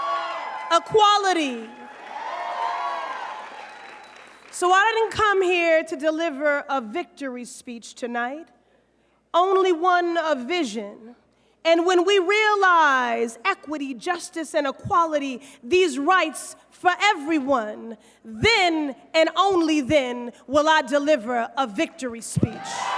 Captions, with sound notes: EQUALITY. [CROWD CHEERS] SO I DIDN'T COME HERE TO DELIVER A VICTORY SPEECH TONIGHT, ONLY ONE VISION. AND WHEN WE REALIZE EQUITY, JUSTICE, AND EQUALITY - THESE RIGHTS FOR EVERYONE. THEN, AND ONLY THEN, WILL I DELIVER A VICTORY SPEECH.